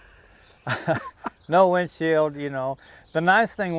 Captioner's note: laugh